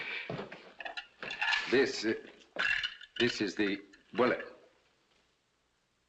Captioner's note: clinking